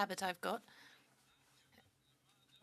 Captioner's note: speaking French